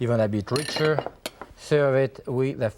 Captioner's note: bowls clatter